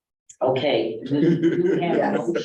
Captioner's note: laughter